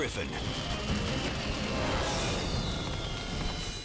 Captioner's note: fire roaring